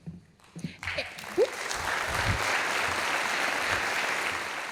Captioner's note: audience applauding